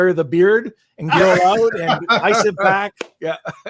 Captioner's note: laughing